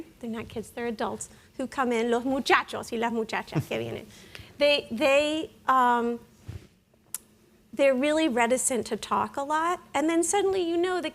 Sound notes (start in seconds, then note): 2.3 speaking in Spanish